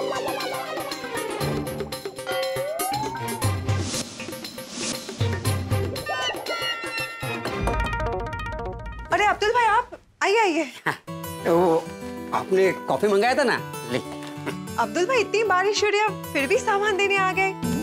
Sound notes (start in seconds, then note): 7.4 knocks on the door